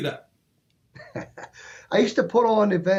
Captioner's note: chuckles